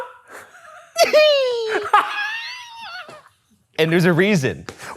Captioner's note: both laughing